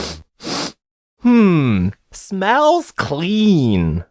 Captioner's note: sniff. sniff